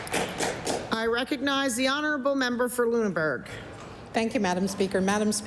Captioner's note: applause